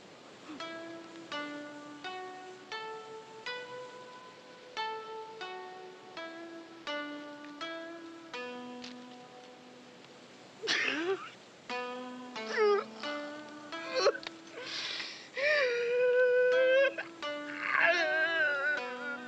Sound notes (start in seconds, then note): 11.0 sobbing